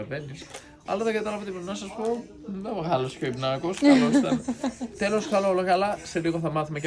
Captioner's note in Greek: γέλια